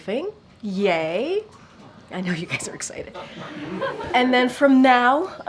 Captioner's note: laughter